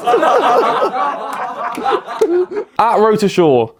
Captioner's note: laughs; audience laughs